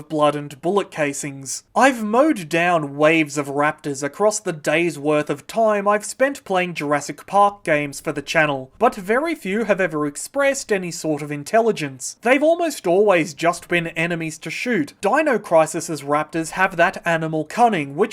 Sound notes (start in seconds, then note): none